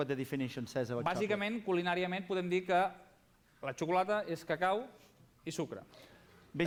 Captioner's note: non-english speech